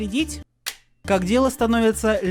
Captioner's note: click